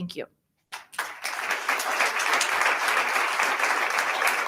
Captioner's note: attendees applauding